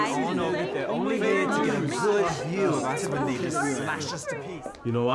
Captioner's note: group chattering